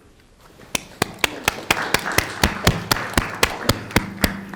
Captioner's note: people clapping